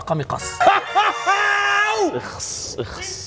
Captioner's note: smug-laughing